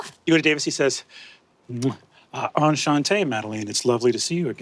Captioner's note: kisses